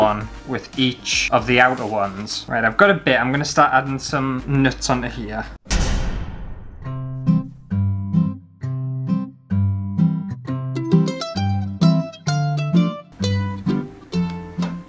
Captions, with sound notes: with each of the outer ones.. Right I've got a bit, I'm gonna start adding some nuts onto here. *Thud* *Happy Music*